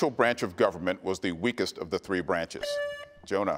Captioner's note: buzzer beeps